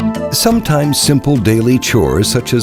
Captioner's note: voiceover